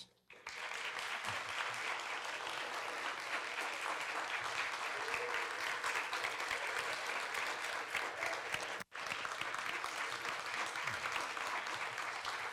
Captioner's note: applause